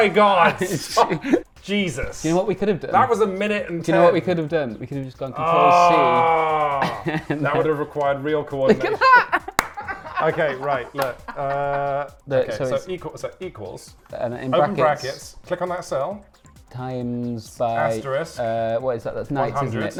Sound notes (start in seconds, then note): 5.4 groaning; 8.6 both laughing